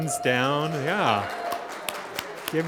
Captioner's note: audience applauding; audience cheering